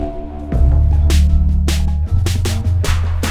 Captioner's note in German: Dröhnen; Dynamische Musik